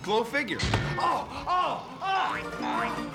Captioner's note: <i> clang</i>